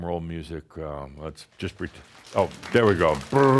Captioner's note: audience slaps hands on legs to create a “drumroll”